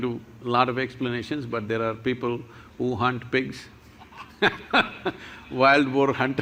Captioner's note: laughs